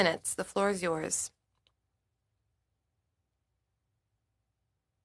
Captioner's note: speaking French